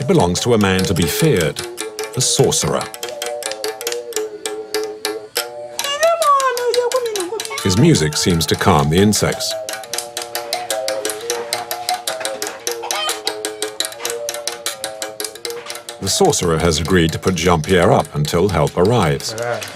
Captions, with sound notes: It belongs to a man to be feared, a sorcerer. [foreign language] His music seems to calm the insects. The sorcerer has agreed to put Jean-Pierre up until help arrives.